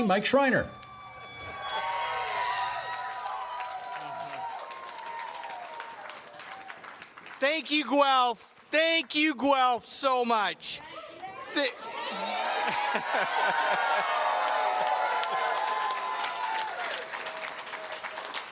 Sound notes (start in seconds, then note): 3.4 cheers and Applause; 11.3 cheers and Applause